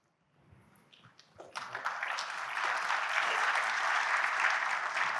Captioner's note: audience applauding